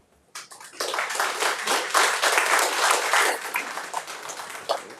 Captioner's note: audience applauding